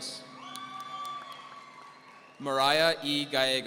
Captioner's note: audience cheering